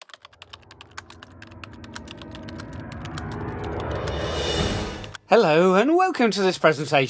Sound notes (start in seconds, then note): 0.0 typing